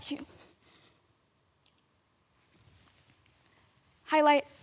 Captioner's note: soft breathing